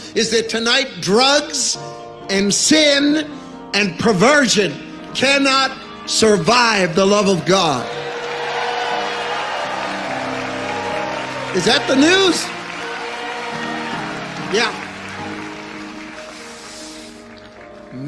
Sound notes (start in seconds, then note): 7.6 audience cheering